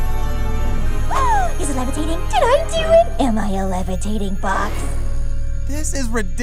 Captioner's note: exclaims